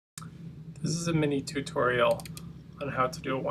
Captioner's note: voiceover